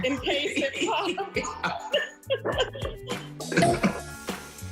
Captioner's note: laughter